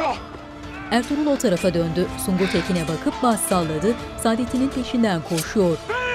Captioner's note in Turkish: Dövüş sesleri